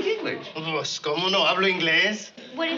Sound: speaking spanish

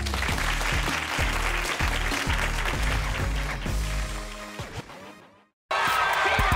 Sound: audience applauds; upbeat music

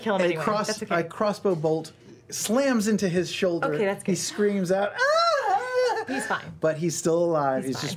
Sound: whimper

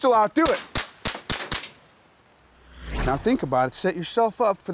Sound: gunshots

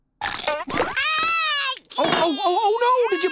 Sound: crying

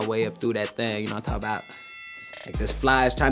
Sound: bell rings

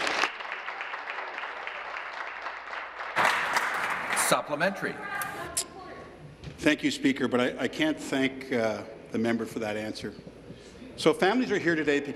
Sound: applause

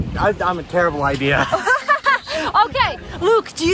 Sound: laughs

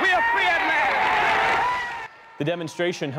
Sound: cheering and applause

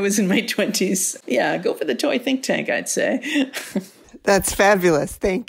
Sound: laughing

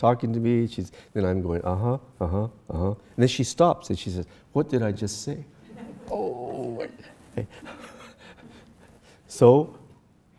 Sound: laughs

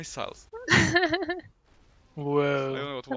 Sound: haha

